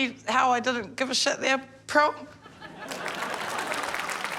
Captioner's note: laughter, applause